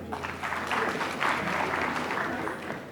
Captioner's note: applause